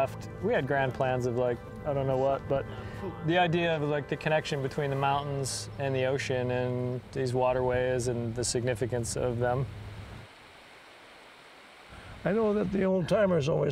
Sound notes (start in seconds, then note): 10.1 running water